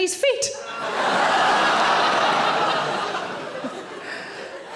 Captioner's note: audience laughing